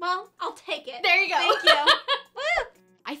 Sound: laughs

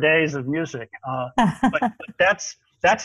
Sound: laughing

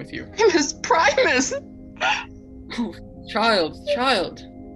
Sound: bursts into tears

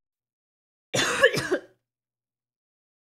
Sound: coughing

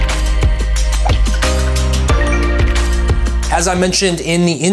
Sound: air whooshes

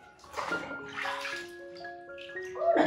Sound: laughs

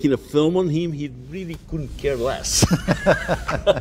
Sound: laughs

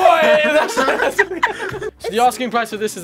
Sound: both laugh

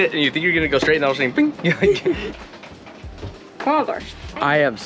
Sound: chuckles

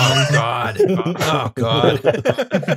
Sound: laughter

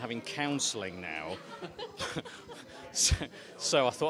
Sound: laughter

